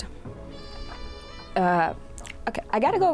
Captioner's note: meow sfx